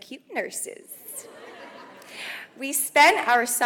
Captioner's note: audience laughs